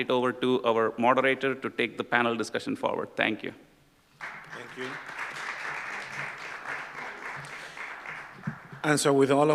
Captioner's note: applause